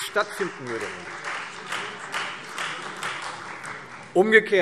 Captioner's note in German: Beifall Freie Demokraten